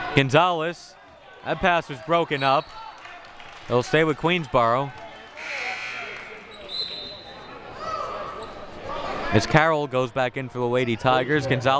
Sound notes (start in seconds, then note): 5.4 buzzer buzzing